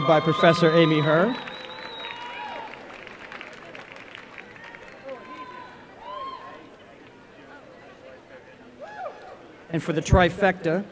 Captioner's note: applause and cheering